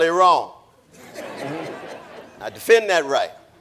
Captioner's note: audience laughing